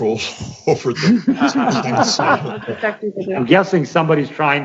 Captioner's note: laughing